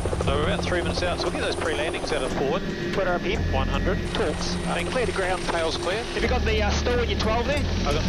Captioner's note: helicopter and radio sounds